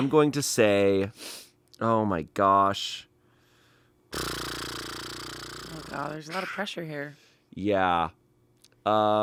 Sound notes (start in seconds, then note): 4.1 blows lips